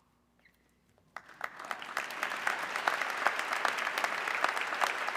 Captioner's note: audience clapping